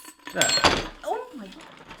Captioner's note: thud